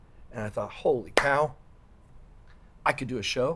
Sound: hands clap

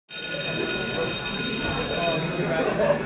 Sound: bell ringing

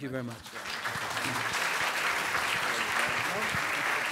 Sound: applause

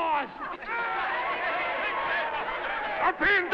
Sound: crowd laughing

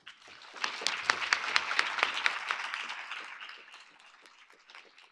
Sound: audience applauding

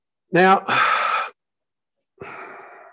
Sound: sighs

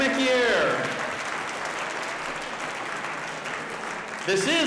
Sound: audience applauding

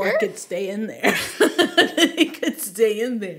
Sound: laughing

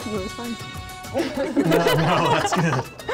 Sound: laughter

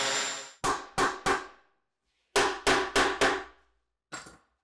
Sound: hammer bangs

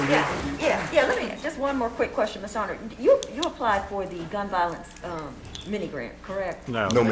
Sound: applause

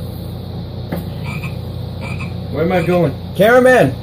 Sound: Nick jr Frogs Croaking

